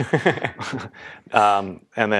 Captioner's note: laugh